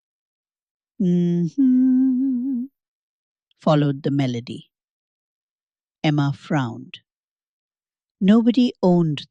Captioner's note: hums